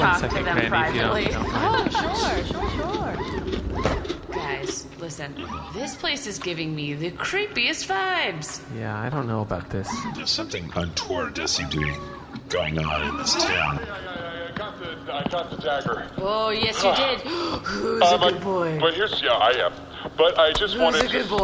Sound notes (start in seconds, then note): 1.2 laughs nervously; 16.4 voice like they are speaking to a good dog; 17.2 pants